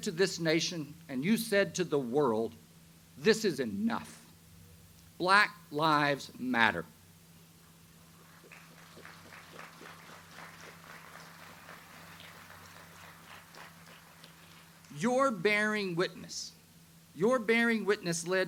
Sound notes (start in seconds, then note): 8.2 audience applauds